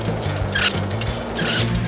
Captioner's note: foot screeching